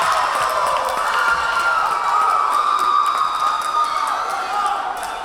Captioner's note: cheering; clapping